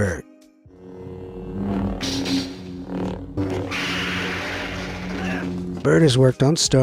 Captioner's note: lightsabers buzzes, whooshes